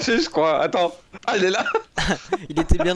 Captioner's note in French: glousse